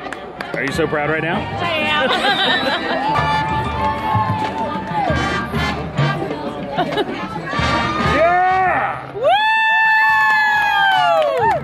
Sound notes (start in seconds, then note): 3.3 crowd cheering